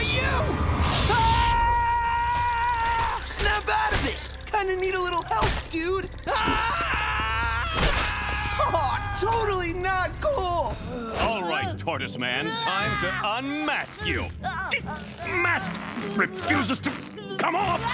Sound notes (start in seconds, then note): 0.9 screaming; 6.2 screaming